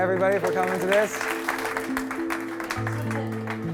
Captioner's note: audience clapping